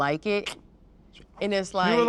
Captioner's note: Johnny clicks teeth